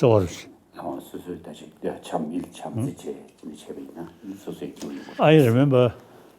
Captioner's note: speaking foreign language